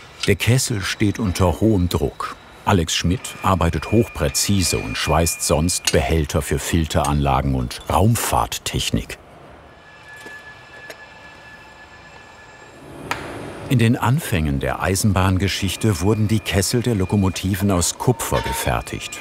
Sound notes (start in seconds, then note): 9.7 distant machine noises